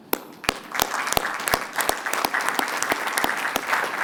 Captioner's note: applause